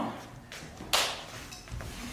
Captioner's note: slap